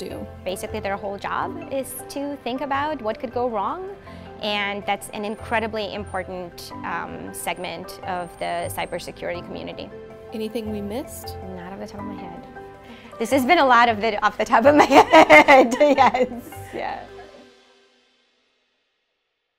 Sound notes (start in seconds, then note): 14.8 laughs